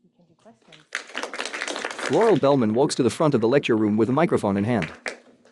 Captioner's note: applause